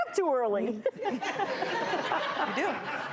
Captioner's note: audience laughing